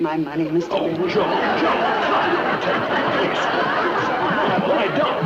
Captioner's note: audience laughing